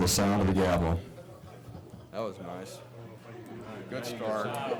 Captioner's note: laughter